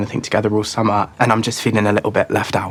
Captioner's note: none